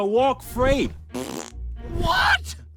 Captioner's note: blows raspberry